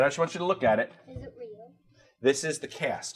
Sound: voiceover

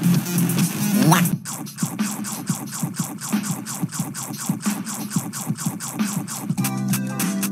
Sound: nom

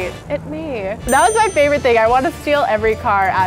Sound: affirmative ding

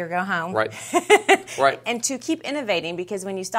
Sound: chuckling

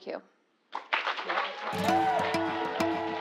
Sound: applause

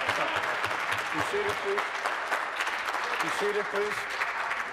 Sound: applause

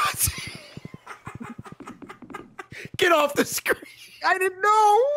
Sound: laughs

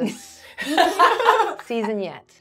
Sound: gamers laughing

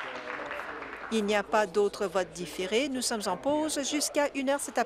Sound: applause

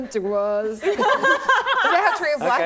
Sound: laughing

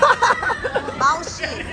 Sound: laughs

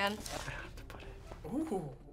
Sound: whispers

